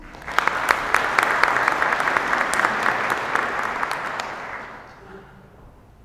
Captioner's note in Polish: oklaski